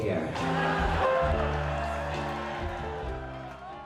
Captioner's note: more laughter from the audience